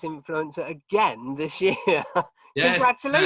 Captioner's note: chuckling